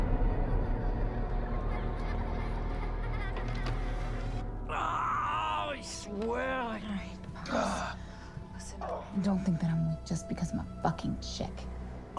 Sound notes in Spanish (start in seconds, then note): 1.3 Niños riendo; 4.7 Woeland gritando